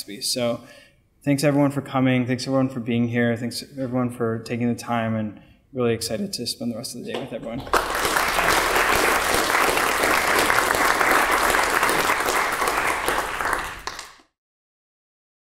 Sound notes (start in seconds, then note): 7.6 applause